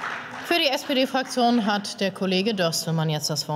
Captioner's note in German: Beifall